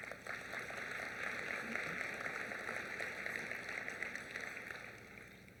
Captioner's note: applause